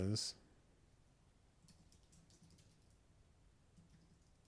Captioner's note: silence